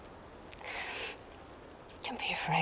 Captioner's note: labored breathing